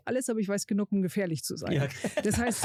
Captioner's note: lachen